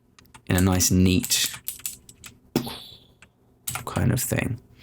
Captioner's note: making explosion sound